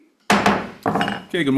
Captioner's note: gavel bangs